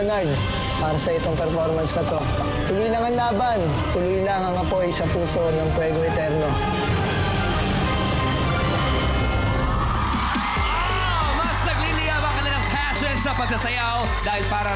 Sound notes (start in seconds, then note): 6.3 music swells; 9.8 loud cheering